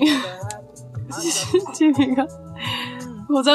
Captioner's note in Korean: ㅎㅎㅎㅎ